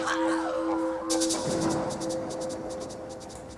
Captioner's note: screaming